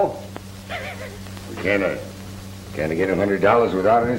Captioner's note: laughs